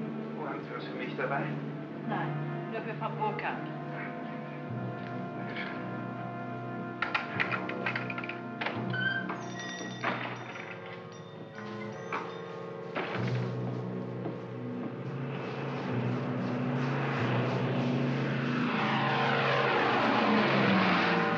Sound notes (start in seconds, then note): 0.2 speaking in German; 6.8 key rattles in lock; 7.0 door opens; 10.4 ominous music; 12.9 door closes; 14.4 aircraft roars overhead